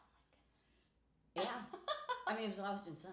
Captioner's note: laughing